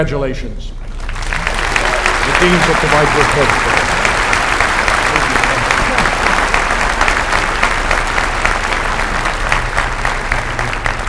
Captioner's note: applause